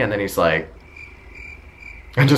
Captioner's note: crickets sound